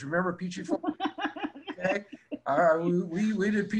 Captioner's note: laughing